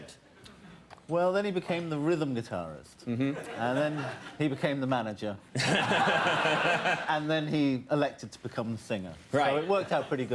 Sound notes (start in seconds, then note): 5.9 laughing